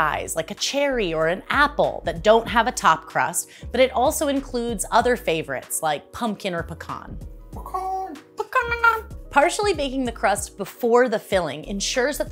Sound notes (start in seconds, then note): 7.4 imitates a chicken